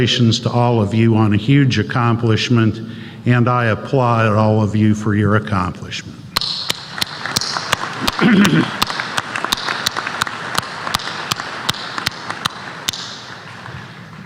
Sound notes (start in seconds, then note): 6.8 applause